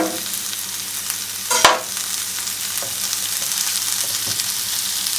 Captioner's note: frying sound